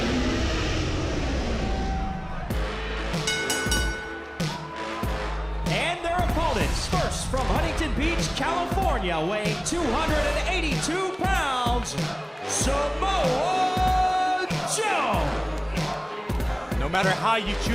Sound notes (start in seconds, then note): 3.2 bell ringing